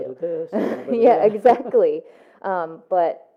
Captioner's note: laughs